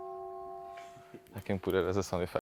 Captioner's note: bell sound